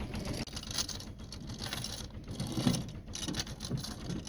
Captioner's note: chain rattling